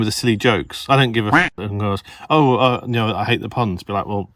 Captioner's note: quack